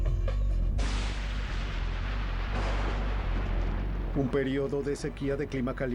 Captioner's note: trueno